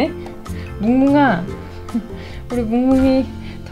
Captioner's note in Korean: 웃음